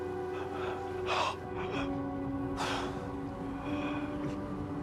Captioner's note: Walter gasping